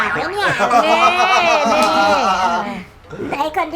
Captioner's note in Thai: เสียงหัวเราะ